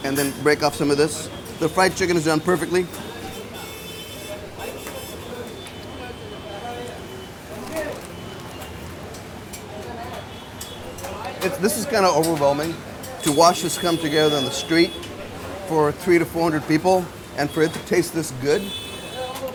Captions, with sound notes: and then break off some of this. The fried chicken is done perfectly. [car horn honking] This is kind of overwhelming, to watch this come together in the street for 300 to 400 people, and for it to taste this good.